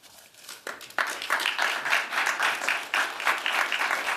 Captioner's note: applause